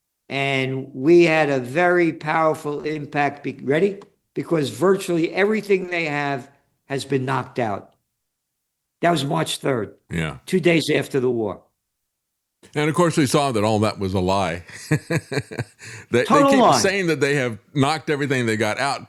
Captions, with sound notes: And we had a very powerful impact, ready? Because virtually everything they have has been knocked out. That was March 3rd, two days after the war. And of course we saw that all that was a lie. (Laughs) They keep saying that they have knocked everything they got out.